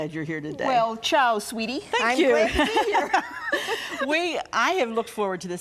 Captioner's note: laughing